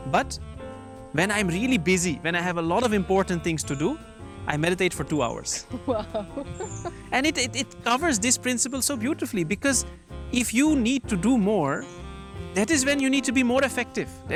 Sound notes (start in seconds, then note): 5.6 laughs